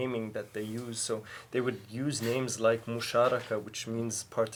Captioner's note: speaking in foreign language